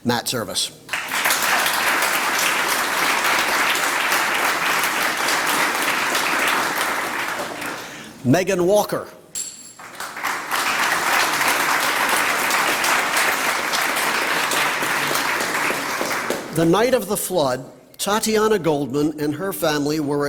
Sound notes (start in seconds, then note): 0.8 applause; 9.7 applause